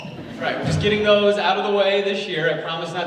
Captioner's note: audience laughs